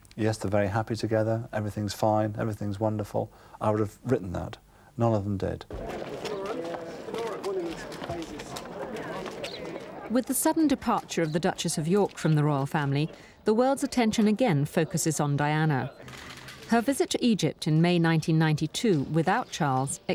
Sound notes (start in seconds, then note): 6.9 people chattering